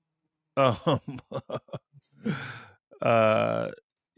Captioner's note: laughter